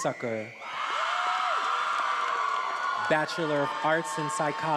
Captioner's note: attendees applauding and cheering